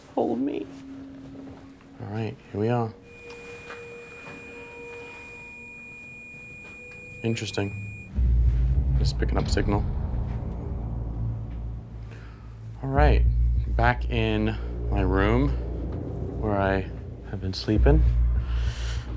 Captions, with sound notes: Hold me. All right, here we are. [HIGH-PITCHED LONG BEEP] Interesting, just picking up a signal. All right. Back in my room where I have been sleeping.